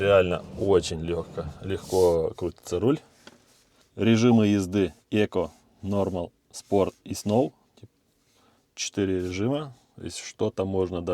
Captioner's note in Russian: фыркает